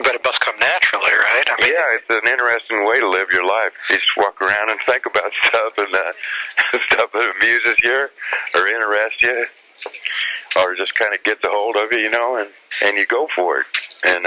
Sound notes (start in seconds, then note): 6.0 laughs